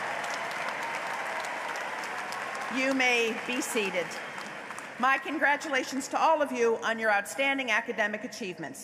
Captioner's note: applause